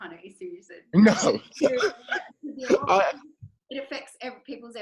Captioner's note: laughs